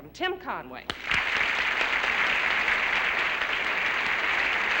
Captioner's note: applause